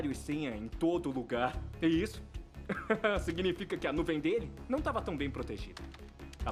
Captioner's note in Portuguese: Risos